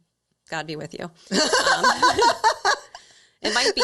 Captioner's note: all laughing